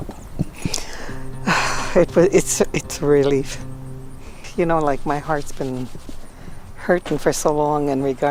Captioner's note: exhales